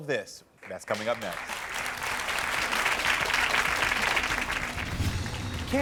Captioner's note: audience clapping